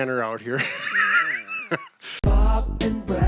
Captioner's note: both laughing